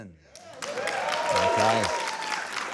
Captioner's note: applause